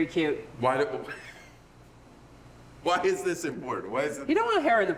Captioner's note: laughing